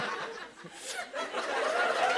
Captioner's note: laughter and applause; imitates puffing cigarette; laughter, cheers, applause